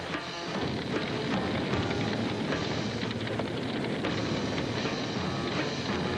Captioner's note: tense suspenseful music; fire roaring